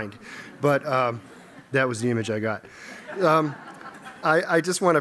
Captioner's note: laughter